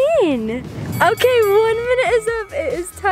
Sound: dinging

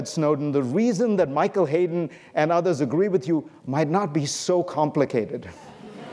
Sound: laughter

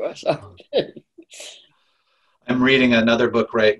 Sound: laughing

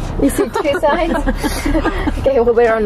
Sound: laughs

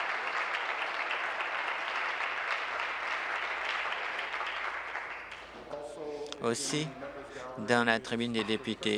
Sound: applause

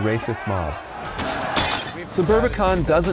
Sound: mobs breaking glass

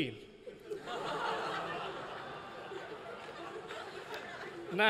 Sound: laughter

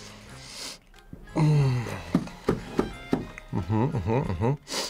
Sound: burps

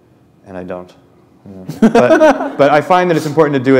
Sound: laughter

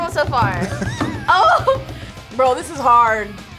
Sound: laughs

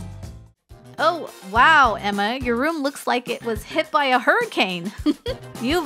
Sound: chuckle

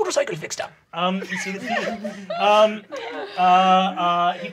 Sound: laughing

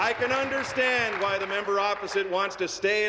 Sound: applause

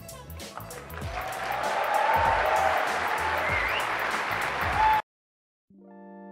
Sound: audience applauding

